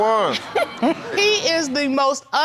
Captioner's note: snickering